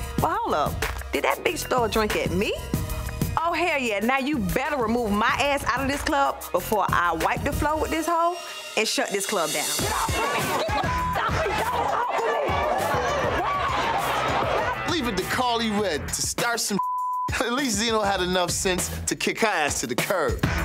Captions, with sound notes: But hold up, did that bitch throw a drink at me? Oh, hell yeah. Now, you better remove my ass out of this club before I wipe the floor with this hoe and shut this club down. Get off of me. Get off of me. - Leave it to Karlie Redd to start some (beep). At least Zino had enough sense to kick her ass to the curb.